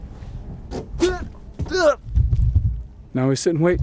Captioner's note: gasps